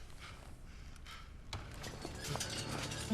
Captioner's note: panting